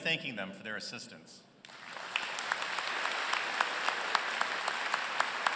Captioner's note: applause